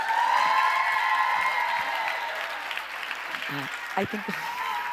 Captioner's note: crowd cheers